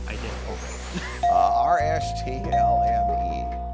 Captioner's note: dinging; chuckling